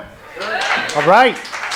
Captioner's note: clapping